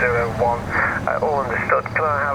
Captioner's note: radio